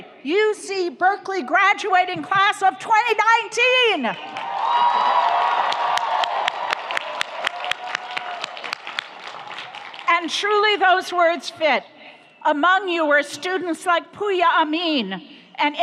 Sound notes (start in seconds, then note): 4.2 audience applauds; 4.3 audience cheers